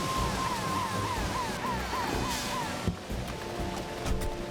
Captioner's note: sirens Blaring